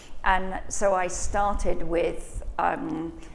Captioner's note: none